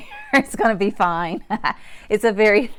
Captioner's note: laughs